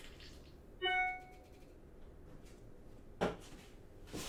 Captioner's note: dinging